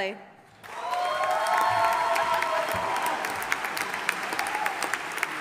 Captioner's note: audience applauding